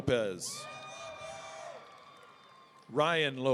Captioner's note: audience cheering